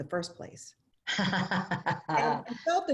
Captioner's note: laughter